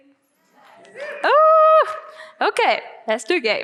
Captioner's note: audience cheering